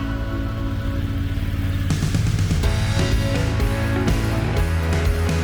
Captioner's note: deep rumble of a Triumph Tiger